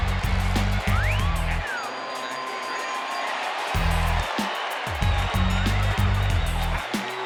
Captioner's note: crowd cheering; upbeat music